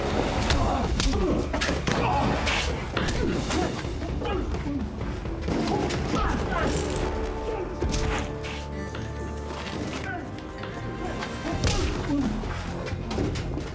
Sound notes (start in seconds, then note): 1.6 punch; 11.5 groan; 11.5 punch